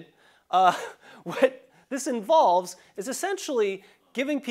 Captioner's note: laugh